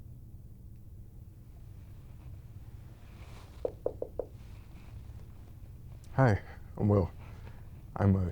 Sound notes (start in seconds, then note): 3.6 knocking